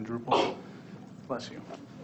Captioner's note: person sneezes